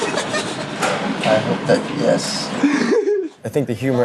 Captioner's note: laughing